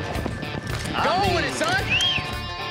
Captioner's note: whistling